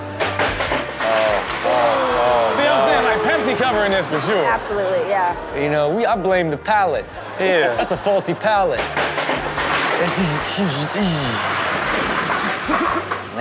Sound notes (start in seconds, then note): 0.0 plastic creaking and crashing; 7.4 Karrueche laughing; 9.1 plastic creaking and crashing; 10.7 Rob vocalizing